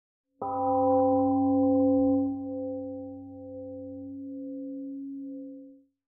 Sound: temple gong rings and fades

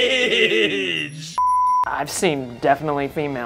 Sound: both laugh; beep

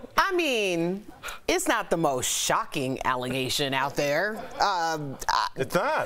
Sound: laughter

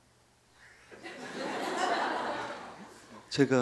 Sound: audience laughter

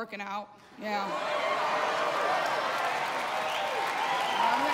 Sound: cheers and applause

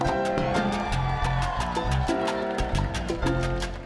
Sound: audience cheering

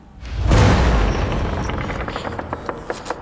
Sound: crack! ominous creaking; electricity buzzes

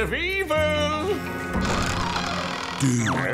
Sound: creaking

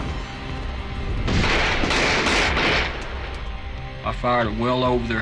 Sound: gun shots

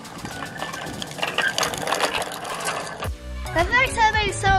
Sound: happy music; squeaking wheels; wheels grinding

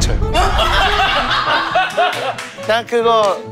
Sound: laughing

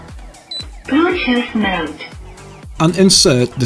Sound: voice from the speaker - "Bluetooth mode"

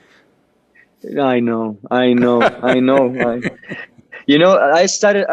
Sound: Sadhguru laughs

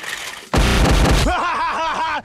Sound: violent smashing

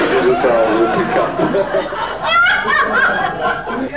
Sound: audience laughing

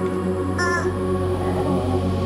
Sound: honking

